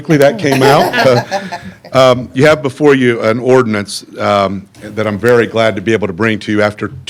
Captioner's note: laughter